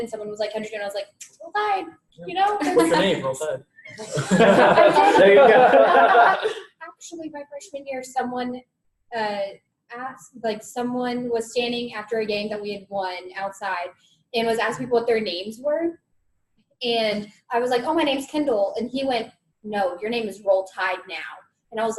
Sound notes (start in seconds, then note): 3.9 all laughing